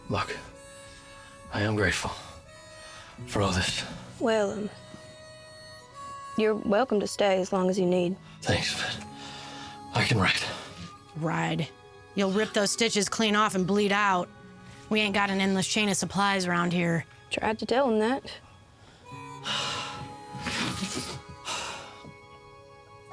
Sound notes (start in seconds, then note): 19.4 Chris sighing